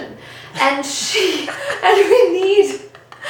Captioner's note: both laughing